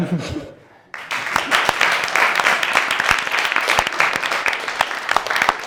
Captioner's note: laughter; applause